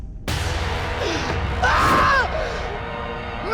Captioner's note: screaming